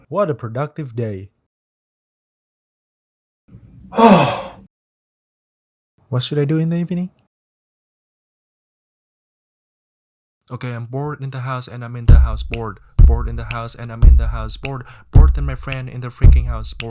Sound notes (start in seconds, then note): 3.9 sigh